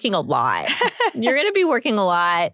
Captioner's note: laughter